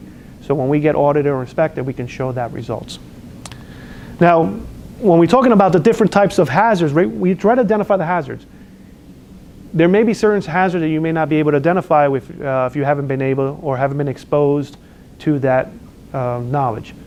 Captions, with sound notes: So when we get audited or inspected, then we can show that results. (lip smacks) Now, when we're talking about the different types of hazards, we try to identify the hazards. There may be certain hazards that you may not be able to identify if you haven't been exposed to that knowledge.